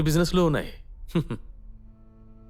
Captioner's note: chuckles